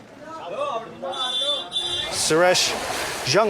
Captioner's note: car horn honking